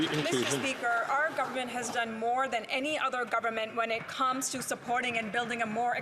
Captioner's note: some Applause